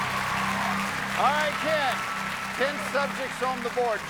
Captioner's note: cheers and applause